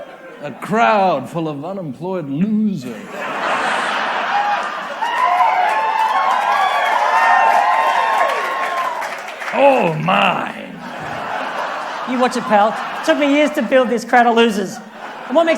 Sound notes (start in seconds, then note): 4.2 audience cheers